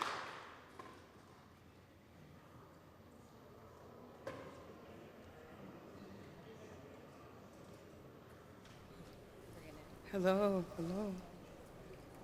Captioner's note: applause